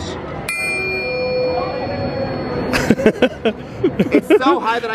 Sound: triangle pings; laughs

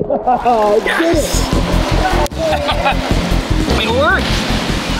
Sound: laughs

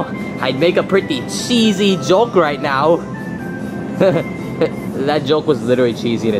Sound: chuckles

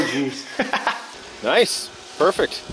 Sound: laughing

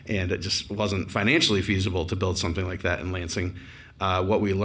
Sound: none

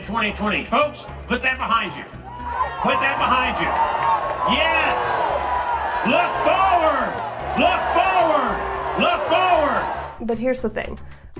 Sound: crowd boos

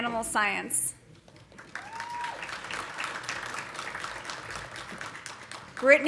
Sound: audience applauding; audience cheering

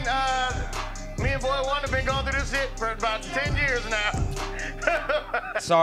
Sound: laughs

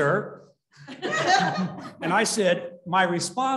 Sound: laughter

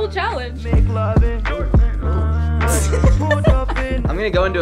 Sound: laughs

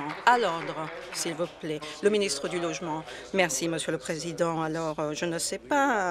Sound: applause

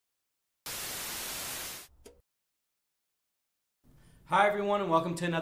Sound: television static

